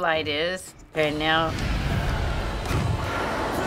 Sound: Leviathan growls

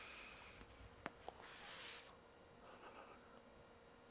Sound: sharp inhale

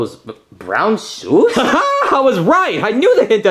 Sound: laughs

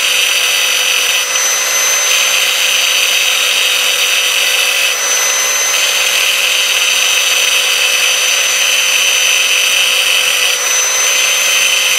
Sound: saw sounds

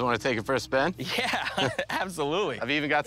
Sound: laughs

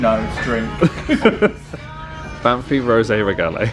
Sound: they laugh

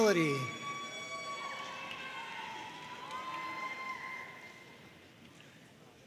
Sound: audience cheering and applauding

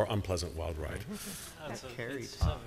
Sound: chuckles

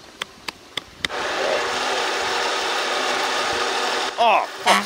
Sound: finger tapping; machinery engine revs; horn honks

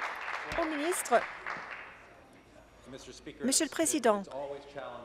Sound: applause

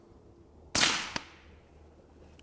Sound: rifle fires

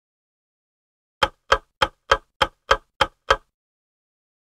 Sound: sound of ticking clock

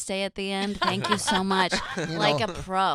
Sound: laughing

